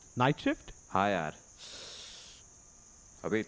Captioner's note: sigh